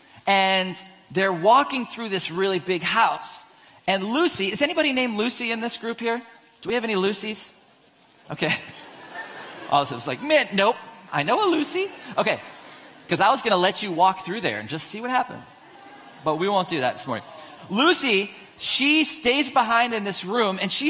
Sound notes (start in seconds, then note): 8.4 audience laughs